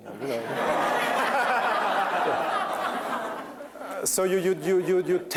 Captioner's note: laughter